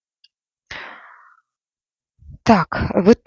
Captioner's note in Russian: вздыхает